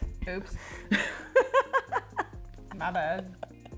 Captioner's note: laughs